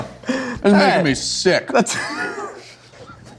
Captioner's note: laughs